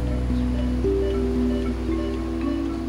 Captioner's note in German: Piepen